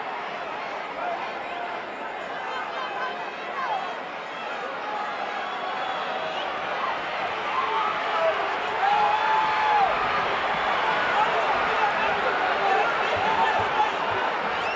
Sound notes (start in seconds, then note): 9.2 audience chattering continues